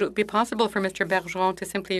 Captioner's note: speaking in French